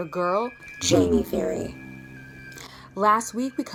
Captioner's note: digital voice